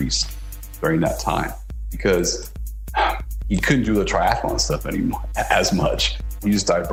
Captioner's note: sigh